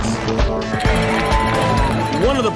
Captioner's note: cheers and applause